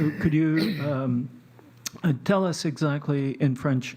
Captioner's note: speaking French